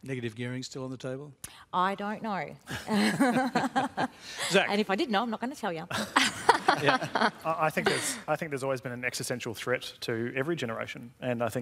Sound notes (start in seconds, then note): 2.8 laughs; 5.9 laughter